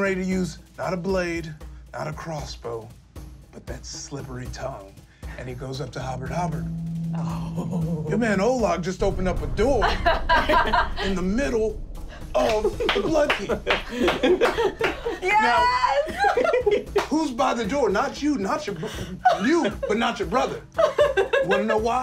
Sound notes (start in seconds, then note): 7.5 gasping; 9.8 laughing